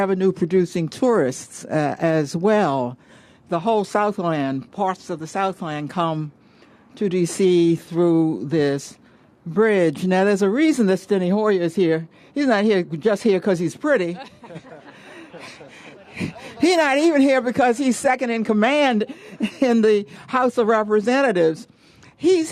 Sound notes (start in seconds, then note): 14.0 laughter